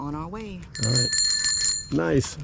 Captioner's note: bell ringing